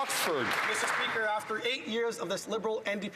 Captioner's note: some Applause